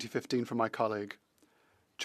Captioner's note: speaking French